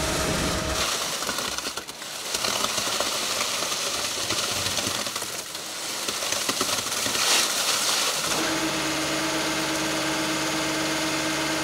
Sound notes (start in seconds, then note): 1.2 cement pumping; 8.3 engine revving